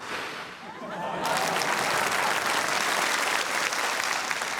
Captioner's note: laughter, applause